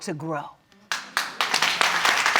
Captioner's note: audience applauding